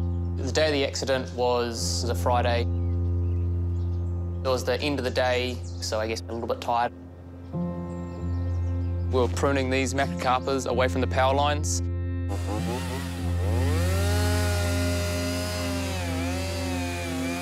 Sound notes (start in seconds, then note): 0.0 solemn piano music; 12.3 chainsaw revs, whirrs